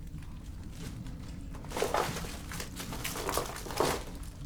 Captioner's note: debris crunches